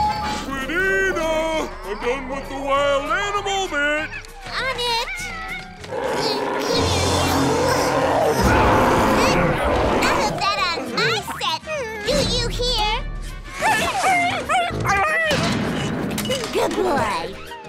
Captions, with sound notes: Squidina, I'm done with the wild animal bit! On it. [growling, grunting] None of that on my set. Do you hear? [whimpering] Good boy.